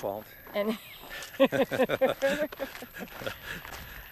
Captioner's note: both laugh